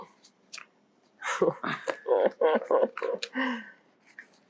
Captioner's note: laughing